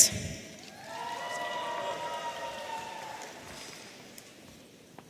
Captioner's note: audience cheering